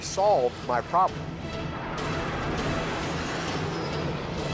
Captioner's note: jet engine noises